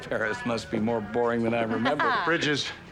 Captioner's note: chuckling